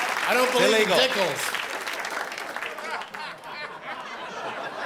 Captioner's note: laughter and applause